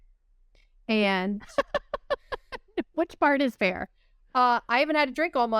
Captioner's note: laughter